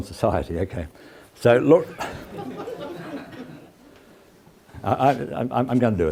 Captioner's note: laugh